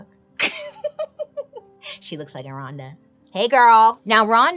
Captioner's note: laughs